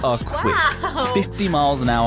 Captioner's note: laughs